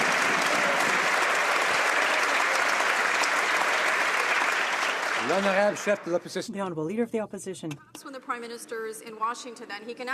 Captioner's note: some Applause